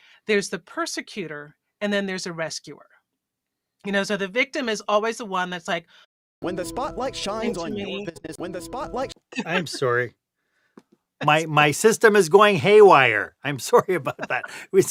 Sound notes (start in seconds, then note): 6.3 voiceover